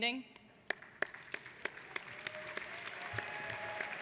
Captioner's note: applauding